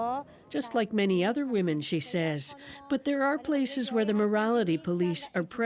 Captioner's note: speaking Alternate Language